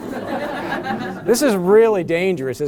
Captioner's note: laughter